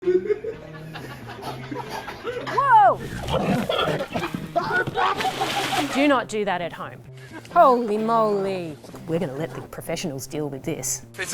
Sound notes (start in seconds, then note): 0.1 laughing; 3.2 yelling